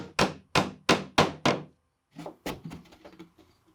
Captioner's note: hammer tapping